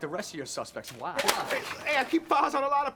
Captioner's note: folder clatters